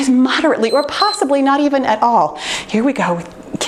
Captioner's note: timer beeps